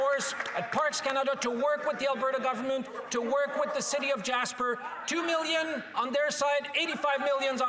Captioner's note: some Applause